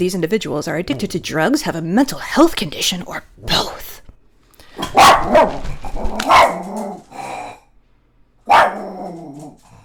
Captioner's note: barking